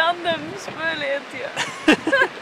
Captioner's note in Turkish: hehehe